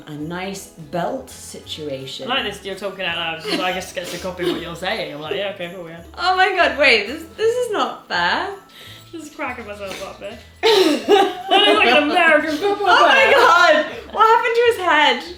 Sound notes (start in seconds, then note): 10.6 laughs